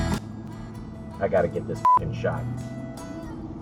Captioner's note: beep